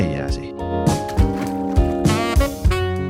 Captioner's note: splashing